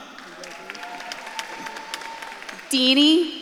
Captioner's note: audience claps and cheers